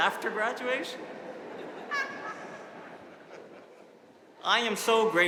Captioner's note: audience laughing